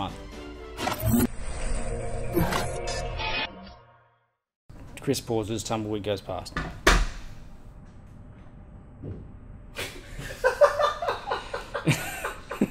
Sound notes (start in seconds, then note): 0.0 light music; 10.4 laughs